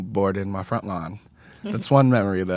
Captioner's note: laughs